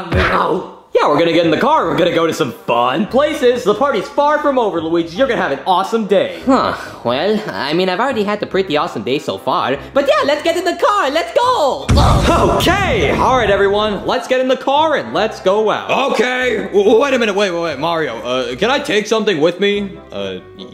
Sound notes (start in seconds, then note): 0.3 body thuds; 11.9 body bangs